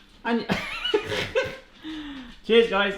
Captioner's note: laughing